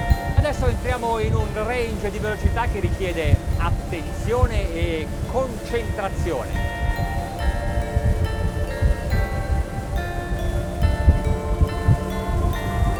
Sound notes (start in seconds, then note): 1.1 speaking foreign language; 9.3 dramatic ethereal music